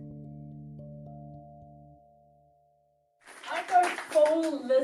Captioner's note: crowd clapping